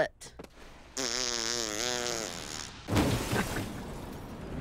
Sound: farting noise; laughing

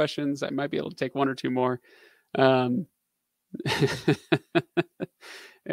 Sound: laughing

